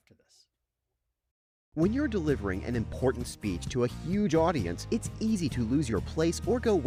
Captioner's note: voiceover